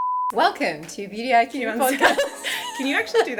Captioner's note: laughing